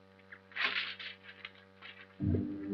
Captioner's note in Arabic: صوت الورقة